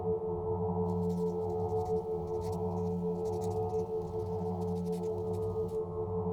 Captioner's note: pen on paper writing sound